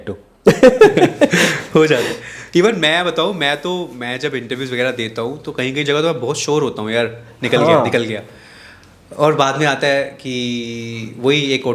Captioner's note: laughs